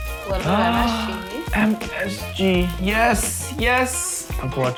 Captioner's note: gasps